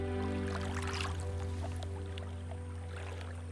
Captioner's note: water splashing